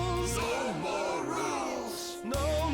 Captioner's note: crowd